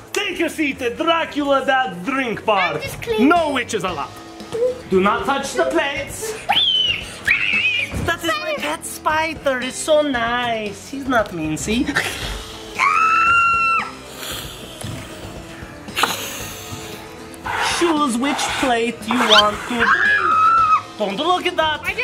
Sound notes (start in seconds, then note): 7.2 screaming; 11.9 hissing; 12.8 screaming; 14.3 hissing; 19.6 screaming